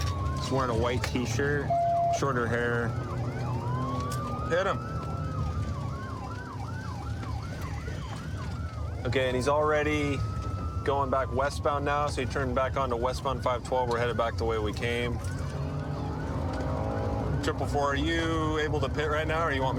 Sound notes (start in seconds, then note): 4.7 sirens wailing